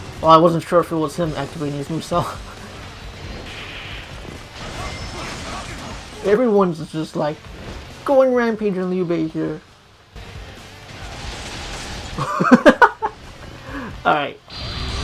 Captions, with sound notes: Oh I wasn't sure if it was him activating his Musou! *giggles* Everyone is just like.. ..going rampage on Liu Bei here! *laughs* Alright..